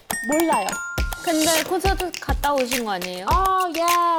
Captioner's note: sharp sound effect